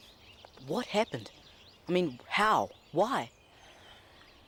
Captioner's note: none